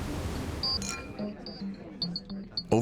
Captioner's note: waves crashing; crowd chattering; glasses clinking